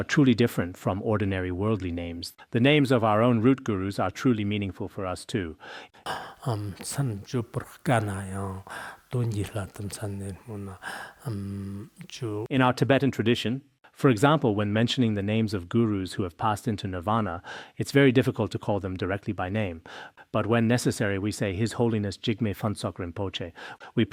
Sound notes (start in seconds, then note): 6.2 citing scripture in Tibetan